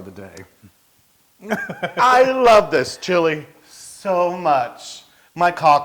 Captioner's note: laugh